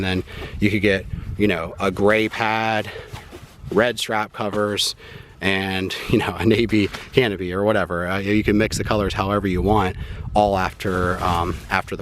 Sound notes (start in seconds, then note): 6.0 chuckling